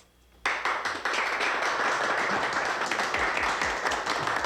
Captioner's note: crowd applauding